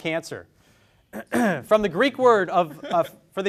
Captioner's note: clears throat; students giggling